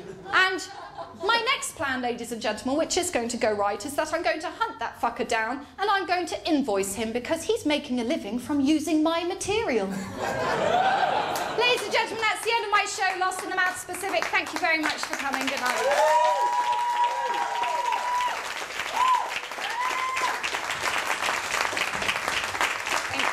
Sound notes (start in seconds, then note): 9.9 laughter; 16.3 cheers & applause